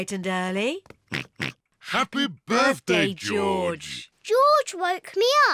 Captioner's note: oinks